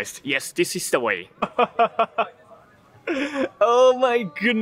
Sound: laughing incredulously

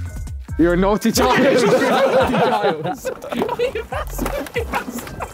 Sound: men laughing

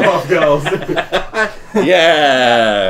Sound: laughing

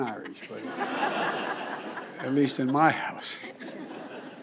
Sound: laughter

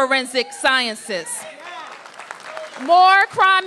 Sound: applause

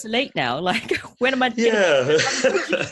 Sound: laughs

